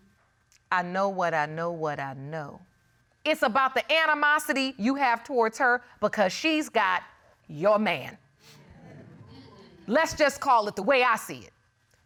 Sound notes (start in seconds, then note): 8.3 audience exclaiming